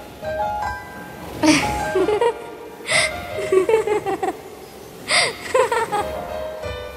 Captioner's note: Joyfull laugh